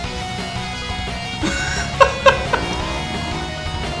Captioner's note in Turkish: gülme sesleri